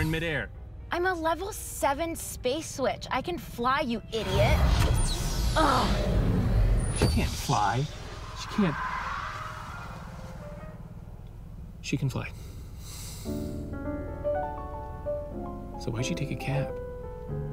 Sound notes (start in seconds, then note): 12.4 sighs